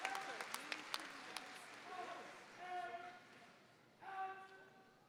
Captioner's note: drill sergeant chants commands